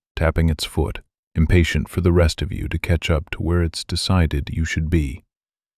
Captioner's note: thoughtful